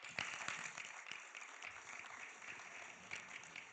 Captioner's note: audience clapping